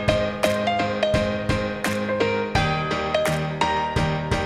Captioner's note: applause